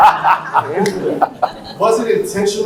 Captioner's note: laughs